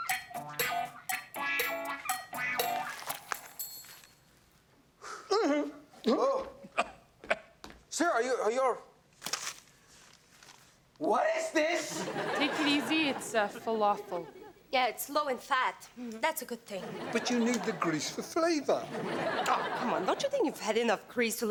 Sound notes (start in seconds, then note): 5.9 Ben sighs; 6.7 man coughing